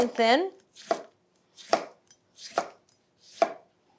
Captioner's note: knife chopping